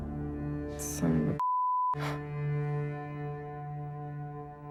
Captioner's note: O'Donnell sighing; beep